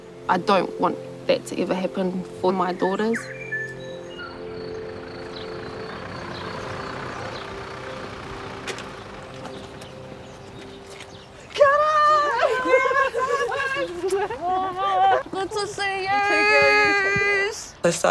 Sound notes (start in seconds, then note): 5.5 birds singing; 11.5 laughing